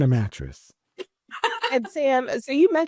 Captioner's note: laughs